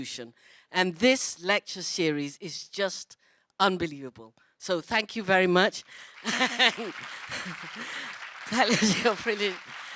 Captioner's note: laughs